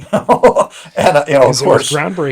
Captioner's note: laughs